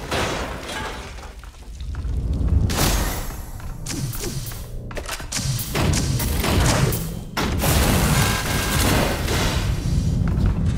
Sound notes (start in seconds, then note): 2.9 gun firing